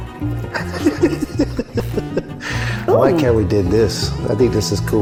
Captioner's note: laughs